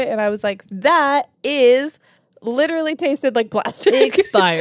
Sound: laughs

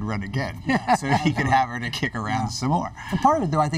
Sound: laughter

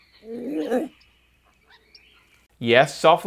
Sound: eewok purrs

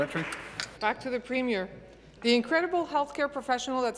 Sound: applause

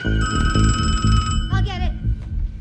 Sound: phone ringing

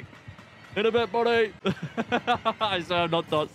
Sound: laughs

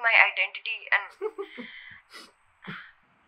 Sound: Dhanush laughs

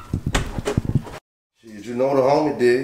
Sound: door closing

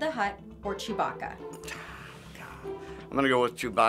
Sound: sighing

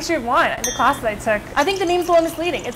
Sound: glasses clink and wine pours

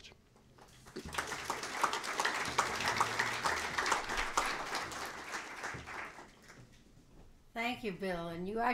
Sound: applause

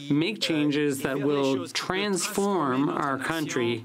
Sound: speaking French

